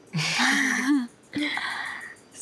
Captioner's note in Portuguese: risos